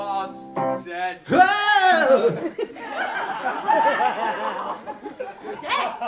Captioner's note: scream